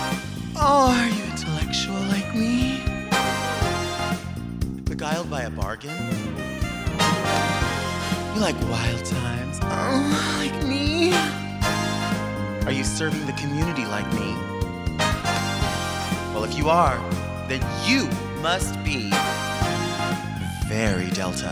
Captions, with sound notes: Oh, are you intellectual like me? Beguiled by a bargain? You like wild times (moans) like me? Are you serving the community like me? Well, if you are, then you must be Very Delta.